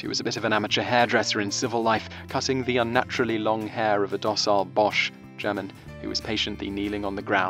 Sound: German

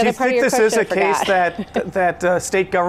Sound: chuckles

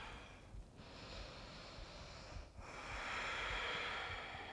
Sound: deep breathing

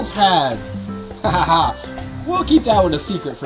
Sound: Mr. Engineer laughs

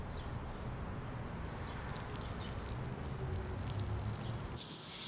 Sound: urinating

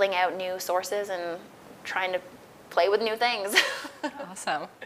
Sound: laughs

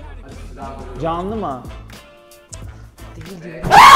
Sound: tsk

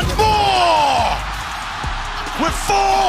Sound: crowd cheering

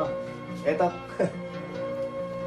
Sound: chuckles

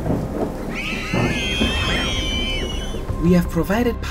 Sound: children scream

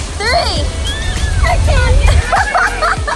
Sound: screams; laughs

